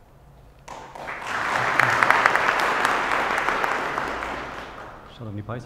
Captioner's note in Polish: oklaski